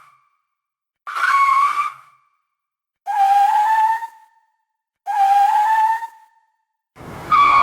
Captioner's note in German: Bremsgeräusch; Reifenquietschgeräusch